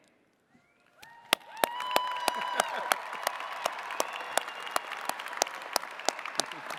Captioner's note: attendees cheering and clapping